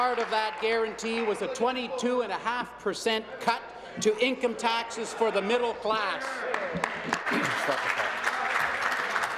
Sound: applause

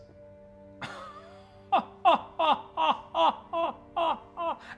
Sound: laughing

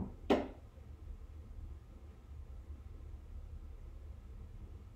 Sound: banging from behind door

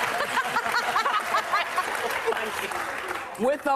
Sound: audience laughing

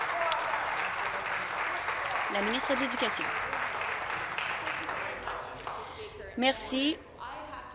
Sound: applause

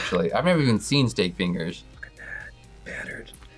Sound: whispers

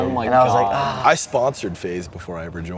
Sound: groaning

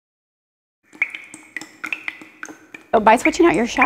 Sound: water dripping

